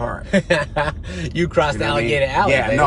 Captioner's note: driver laughs